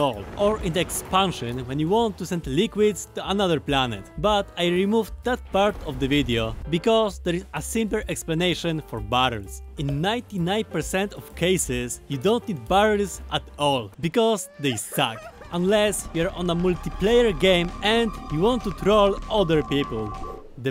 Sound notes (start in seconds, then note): 14.5 crying barrel in the distance